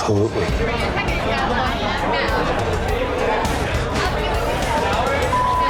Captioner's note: customers chattering loudly